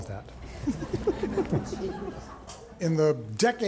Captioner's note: audience laughing